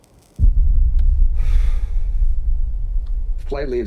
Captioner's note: Bill exhales